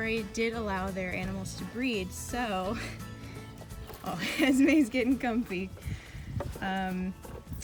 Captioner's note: laughing